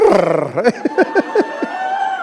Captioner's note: laughter